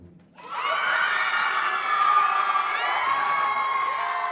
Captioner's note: group cheering